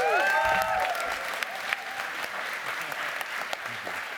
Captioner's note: applause